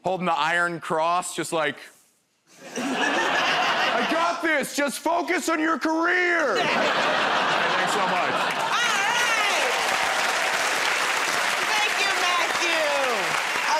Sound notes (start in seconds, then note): 6.4 laughter; 9.8 cheers and applause